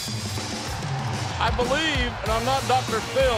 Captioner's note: crowd cheering